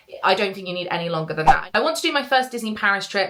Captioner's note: screen fwipping